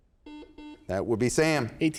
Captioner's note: buzzer sounds